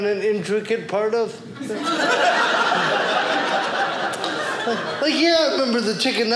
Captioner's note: audience laughing